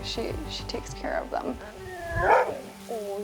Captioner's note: bark